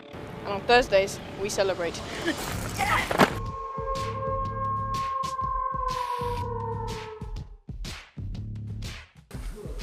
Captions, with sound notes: On Thursdays, we celebrate. (WOLF HOWLS)